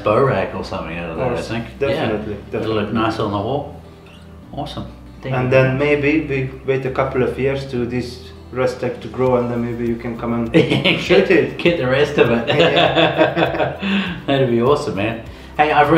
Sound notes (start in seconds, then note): 12.3 both laughing